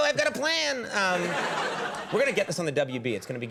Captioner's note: audience laughs